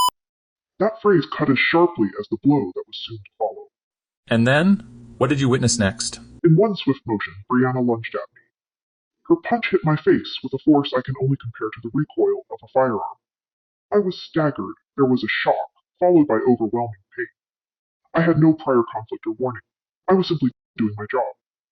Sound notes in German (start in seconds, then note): 6.5 verzerrt